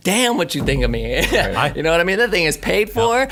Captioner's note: he laughs